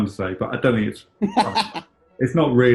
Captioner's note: laughing